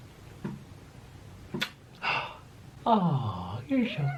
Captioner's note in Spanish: chasqueando los labios